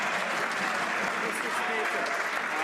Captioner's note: some Applause